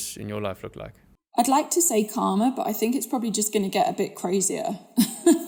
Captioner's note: laugh